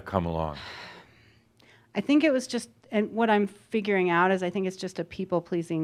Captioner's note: sighing